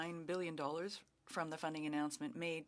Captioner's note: speaking French